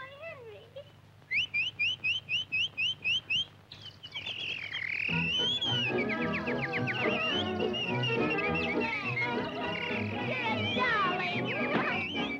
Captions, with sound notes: Why, Henry. (Henry whistles) (birds chirping) You're a darling.